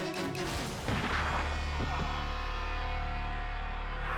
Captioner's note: gunfire banging